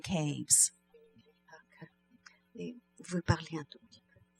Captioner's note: speaking french